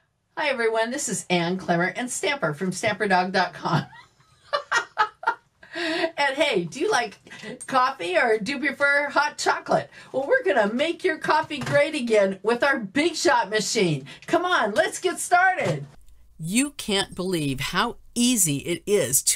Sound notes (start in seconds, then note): 4.6 laughs